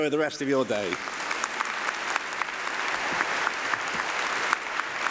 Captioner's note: applause